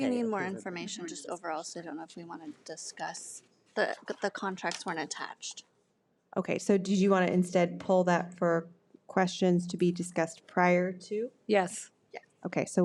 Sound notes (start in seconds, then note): none